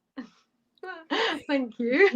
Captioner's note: laughter